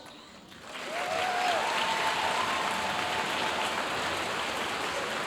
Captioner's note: audience cheering and applauding